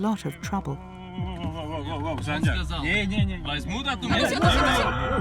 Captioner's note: uzbek spoken language